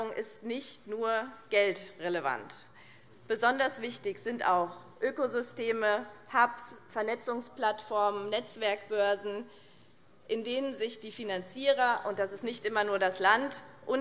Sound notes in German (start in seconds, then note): none